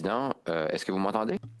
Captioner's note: speaking in French